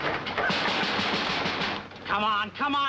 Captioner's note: knocking on door